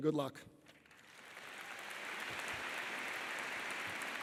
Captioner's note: audience applauding